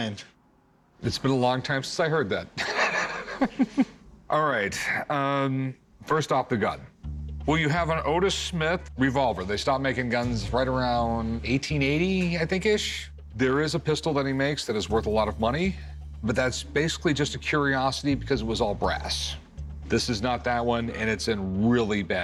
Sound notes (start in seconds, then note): 2.5 laughs